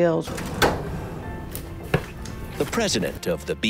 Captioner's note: metal drawer sliding open